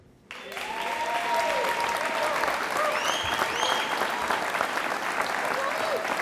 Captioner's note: audience applauding